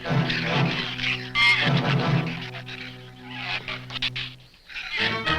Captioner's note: shrews chatter